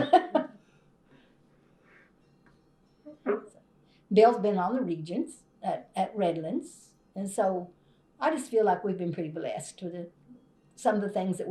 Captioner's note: laughs